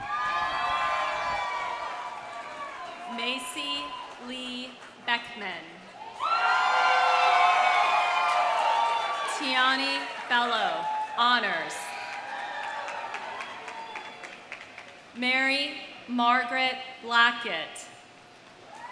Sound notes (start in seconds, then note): 0.0 audience cheers; 0.0 audience applauds; 6.0 audience cheers; 11.4 audience applauds; 12.7 audience cheers